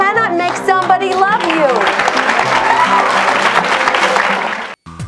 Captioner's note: audience applauds